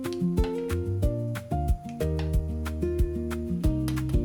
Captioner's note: sizzling